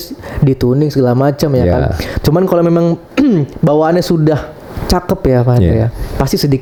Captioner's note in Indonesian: berdehem